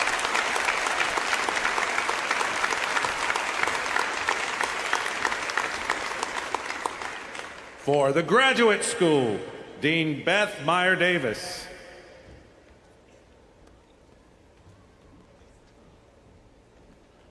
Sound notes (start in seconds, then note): 0.0 applause